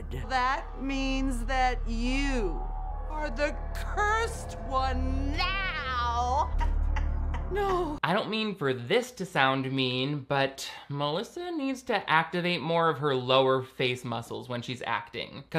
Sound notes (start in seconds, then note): 5.4 laughing